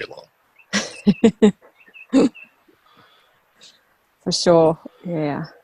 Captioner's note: laughs